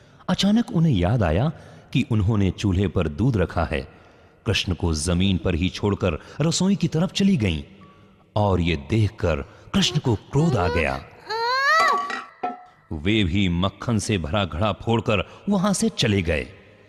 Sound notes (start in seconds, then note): 11.7 pot shatters